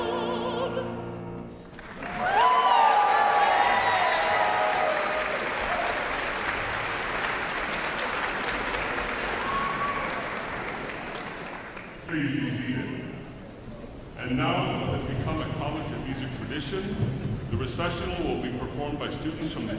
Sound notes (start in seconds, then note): 1.6 audience applauds; 1.8 audience cheers